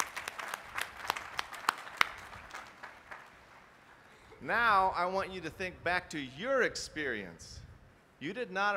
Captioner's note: applause